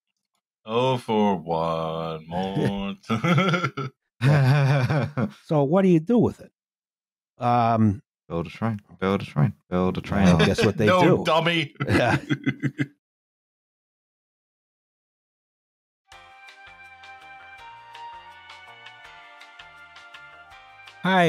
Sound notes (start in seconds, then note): 2.4 laughs; 3.0 laughter; 10.2 laughs; 11.7 laughter; 16.1 bouncy elevator music